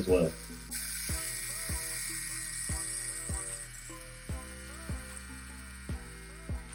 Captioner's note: slow groovy music; tattoo gun buzzing